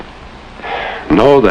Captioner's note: sigh